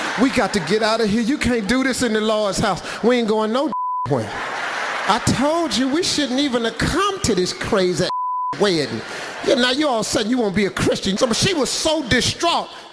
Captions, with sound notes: "We got to get outta here. "You can't do this in the Lord's house." "We ain't goin' (beeping) nowhere. (audience laughs) "I told you we shouldn't even have come "to this crazy (beeping) weddin'. "Now, you all of a sudden, you gon' be a Christian." She was so distraught.